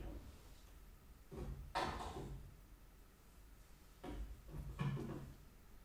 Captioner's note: items clattering continues